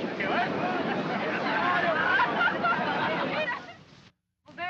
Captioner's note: all laugh